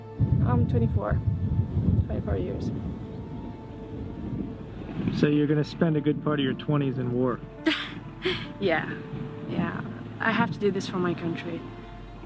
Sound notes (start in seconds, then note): 4.9 voiceover; 7.6 laughs